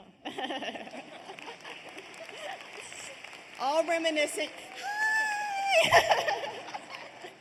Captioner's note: laughter